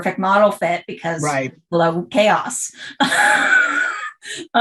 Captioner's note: laughter